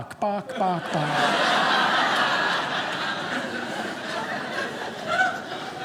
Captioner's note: audience laughing